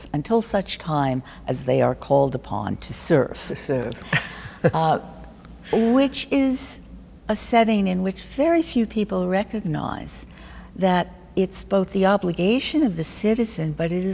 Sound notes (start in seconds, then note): 3.6 chuckling